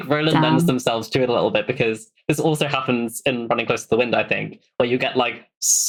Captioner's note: laughs